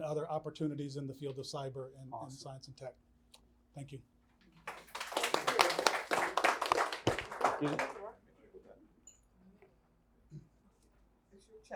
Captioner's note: applause